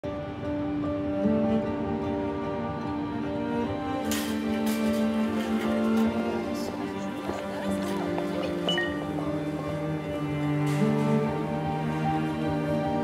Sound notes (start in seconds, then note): 8.6 notification